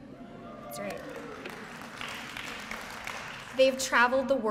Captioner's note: cheering; applause